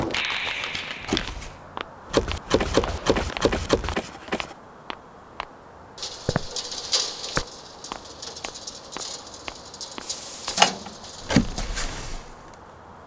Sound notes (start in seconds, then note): 0.0 rattling; 0.1 whoosh; 2.1 popping; 5.9 sound of footsteps and wheels rolling; 10.5 click; 11.2 clunk